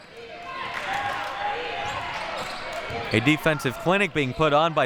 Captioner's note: clapping